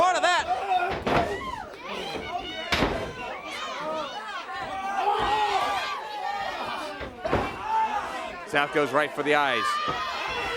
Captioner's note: crowd chatter